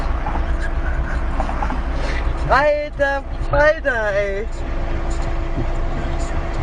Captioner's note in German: lachen